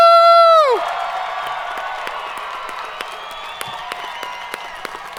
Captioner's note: audience cheering